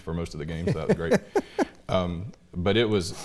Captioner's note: laughing